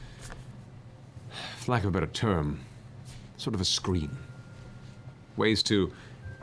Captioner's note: sighs